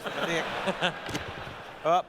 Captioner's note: laughter